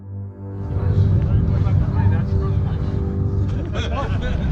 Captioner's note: overlapping chatter